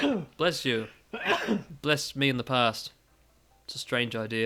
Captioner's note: sneeze